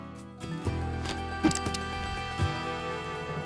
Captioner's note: gun cocks